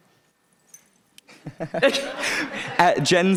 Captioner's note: laughing